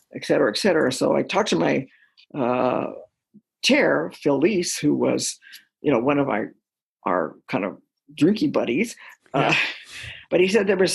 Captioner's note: chuckle